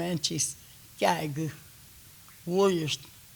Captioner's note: speaking Kiowa